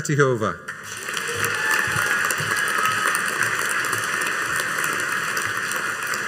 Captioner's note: audience cheering and applauding